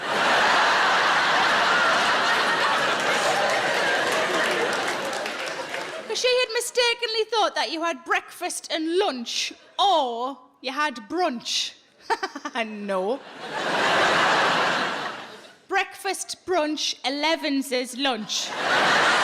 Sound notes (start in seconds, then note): 0.0 audience laughs; 12.0 laughs; 13.0 audience laughs; 18.2 audience laughs